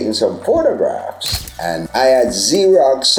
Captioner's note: camera shutter clicks